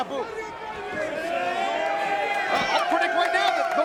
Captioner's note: spectators cheering